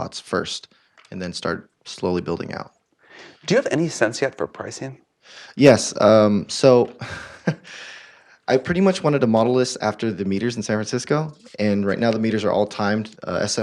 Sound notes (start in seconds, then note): 6.9 laugh